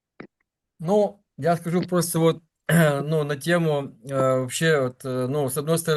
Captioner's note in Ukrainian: прочищення горла